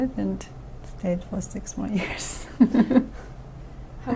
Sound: laughs

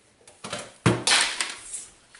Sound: crash

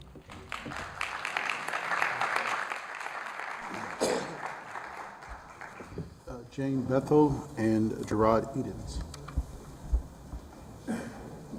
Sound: applause

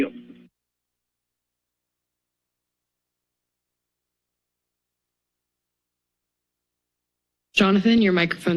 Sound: silence

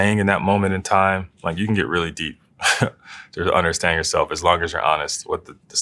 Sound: laugh

